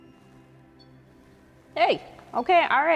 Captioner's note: REM pod beeping